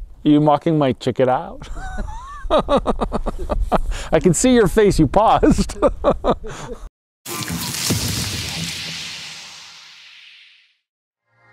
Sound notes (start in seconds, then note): 1.6 laughs; 5.4 both laugh